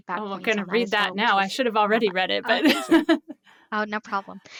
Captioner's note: laughs